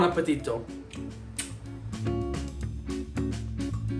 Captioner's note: smooch